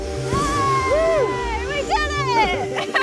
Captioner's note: celebrating